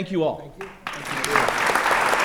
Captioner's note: applause